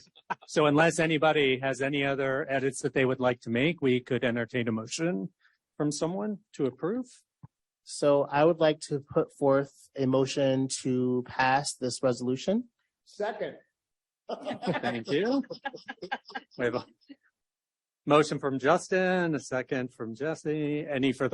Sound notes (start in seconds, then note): 14.3 laughter; 14.3 laughs